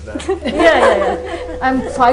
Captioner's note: laughter